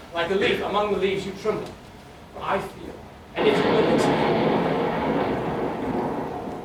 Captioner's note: thunder